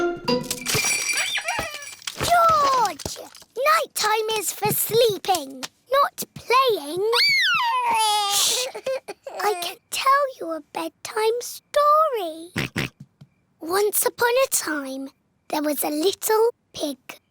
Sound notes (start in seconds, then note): 0.4 bells ring and toys squeak; 7.1 cries; 12.6 oinks